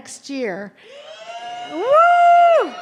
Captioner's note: audience cheering